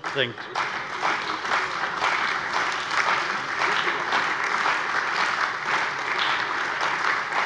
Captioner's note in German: Beifall